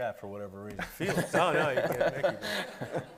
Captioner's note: everybody laughing